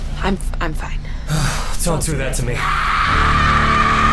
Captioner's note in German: seuftzt